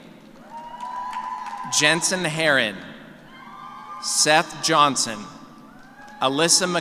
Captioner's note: cheers